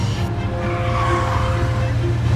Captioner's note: brakes squeal